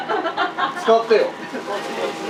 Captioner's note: laughs